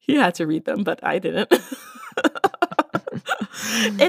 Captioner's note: both chuckle